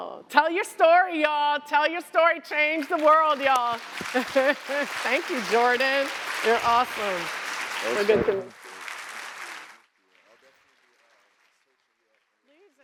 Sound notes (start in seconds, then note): 3.8 applause